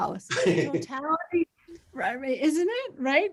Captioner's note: laughs